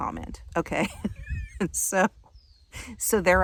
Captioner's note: laughing